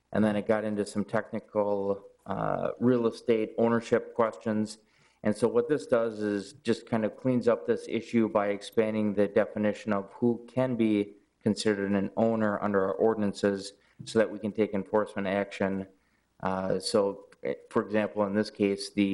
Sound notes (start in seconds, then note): none